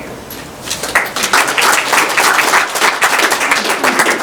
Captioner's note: applause